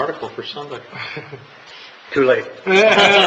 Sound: laughs

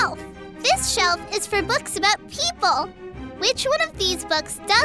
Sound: none

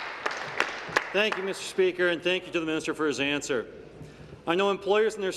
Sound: some Applause

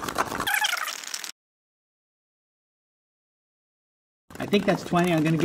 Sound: shaker rattling; fast-forward squeaking

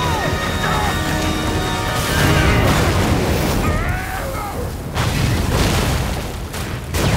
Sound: individual screaming; machine exploding

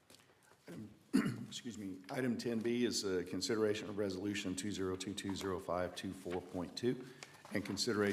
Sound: cough

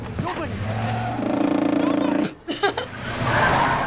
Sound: controller vibrating loudly; laughs

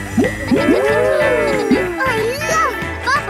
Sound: kids gasping and laughing

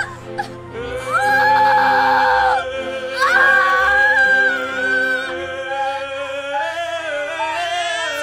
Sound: yelling; baby crying

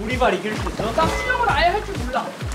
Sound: haha

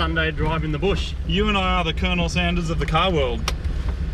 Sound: seatbelt click

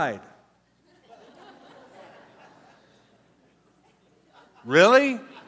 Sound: laughter

